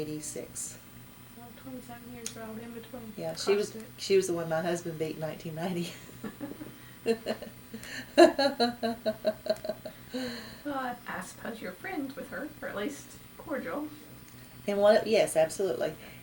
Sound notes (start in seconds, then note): 7.0 laughs